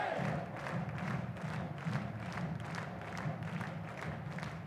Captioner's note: audience clapping